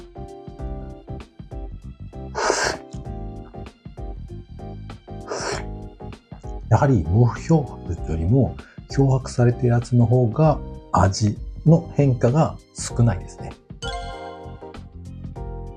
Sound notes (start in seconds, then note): 0.2 sniffs; 2.1 slurps